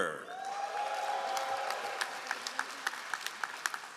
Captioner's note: all applauding